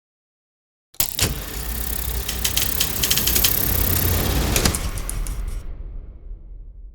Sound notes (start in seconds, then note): 1.0 reel whirring